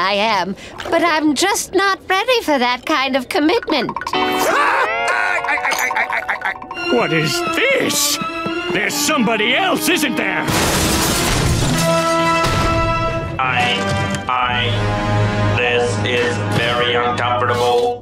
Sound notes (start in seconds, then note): 4.3 laughing; 10.5 shattering